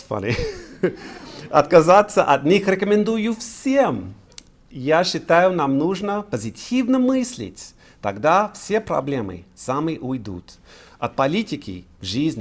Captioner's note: speaking russian